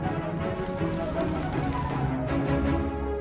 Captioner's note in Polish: ogłos podpalanej słomy